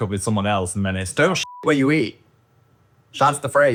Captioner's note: beep